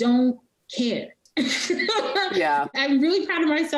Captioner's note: laughing